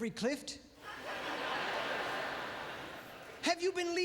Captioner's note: audience laughter